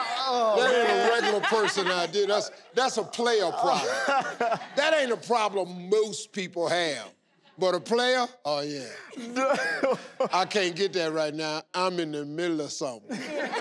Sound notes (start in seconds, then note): 3.4 laughing; 9.2 chuckles; 13.1 audience laughing